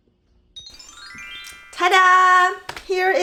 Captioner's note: magic chimes sound